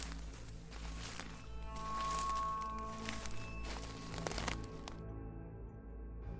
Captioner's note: footsteps on leaves